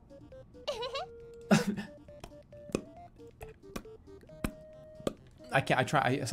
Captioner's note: making mouth noises